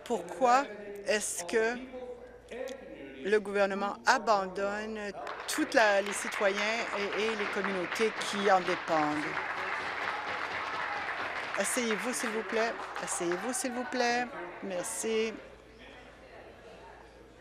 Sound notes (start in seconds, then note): 9.3 applause